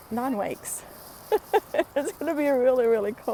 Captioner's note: laughing